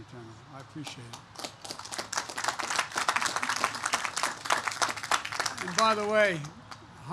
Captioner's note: applause